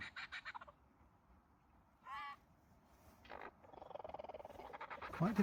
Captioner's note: bird squawks